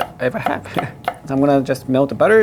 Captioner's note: chuckling